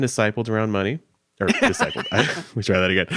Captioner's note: laughing